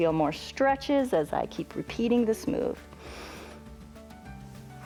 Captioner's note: inhales